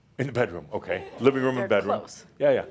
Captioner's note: a few chuckles